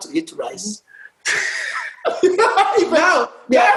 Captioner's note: laughter